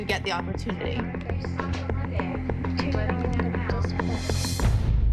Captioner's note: chatter